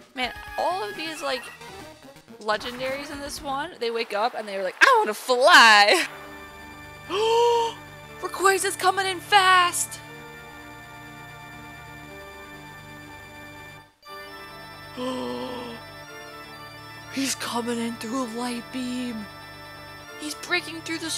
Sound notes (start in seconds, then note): 7.1 gasp